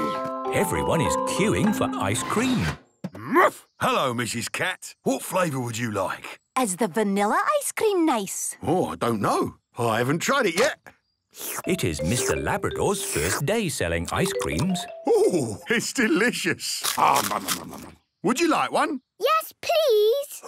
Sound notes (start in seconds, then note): 16.8 crunching